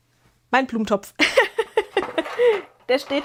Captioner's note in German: gelächter